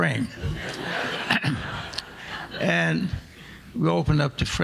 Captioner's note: audience laughing